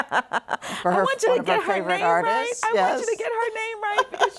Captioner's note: laughs